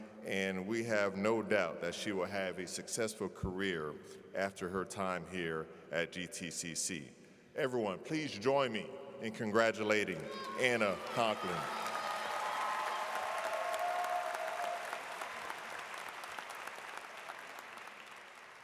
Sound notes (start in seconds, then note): 10.2 audience claps